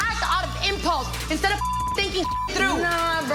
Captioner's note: beep